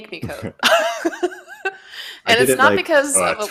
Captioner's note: laughs